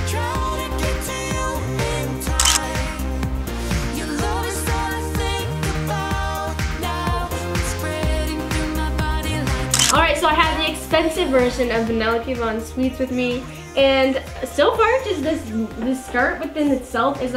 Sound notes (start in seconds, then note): 2.4 camera clicks; 9.7 camera clicks